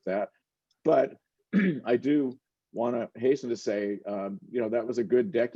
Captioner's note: clears throat